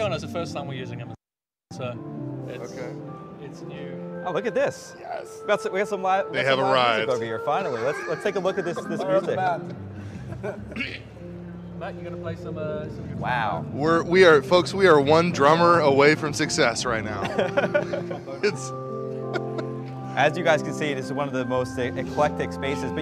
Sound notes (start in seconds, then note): 7.6 laughs